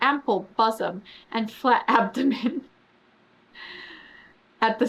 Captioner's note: laughs